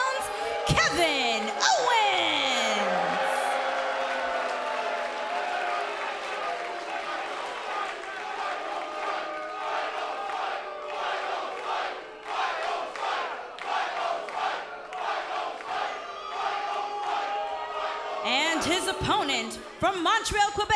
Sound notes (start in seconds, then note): 4.1 cheers & boos; 10.8 fans chanting